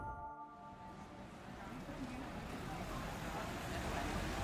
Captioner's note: background chatter